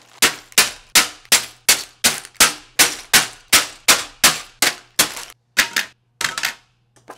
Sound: Lego Bags drop; pages turn

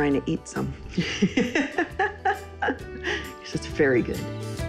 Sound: laughing

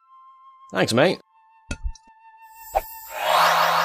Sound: magical whooshy noise

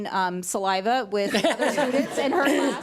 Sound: audience laughs

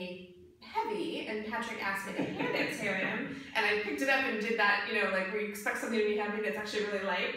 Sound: chuckles

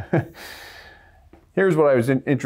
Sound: laugter

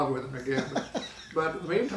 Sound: laughing

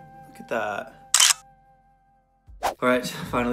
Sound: clicking

